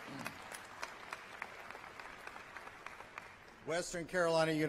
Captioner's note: applause